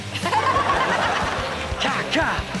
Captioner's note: Chanel and audience laughing